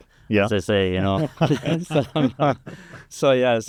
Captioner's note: chuckling